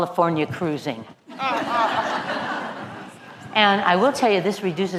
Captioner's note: laugh